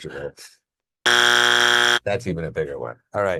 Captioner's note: buzzer blares